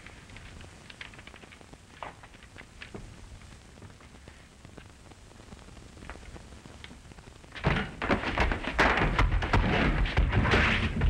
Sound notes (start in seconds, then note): 7.6 crash